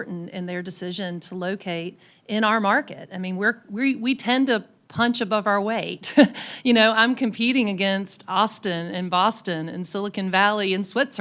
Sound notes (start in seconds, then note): 7.4 laughs